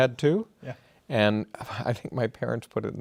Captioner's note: laughing